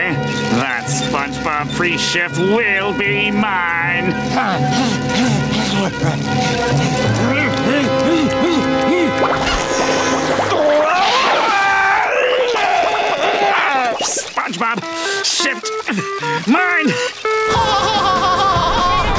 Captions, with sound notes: That SpongeBob pre-shift will be mine! [grunting] [screaming] SpongeBob... shift... mine! [laughing]